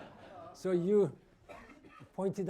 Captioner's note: laughter